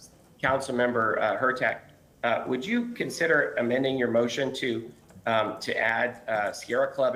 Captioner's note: ~distortion~